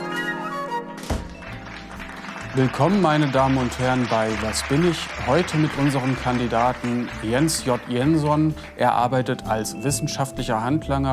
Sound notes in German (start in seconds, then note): 1.0 Applaus